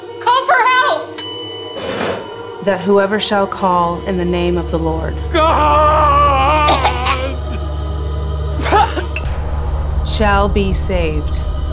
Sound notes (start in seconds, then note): 1.1 bell ringing; 5.3 Ambrus yelling; 6.4 Catherine choking; 7.7 ethereal music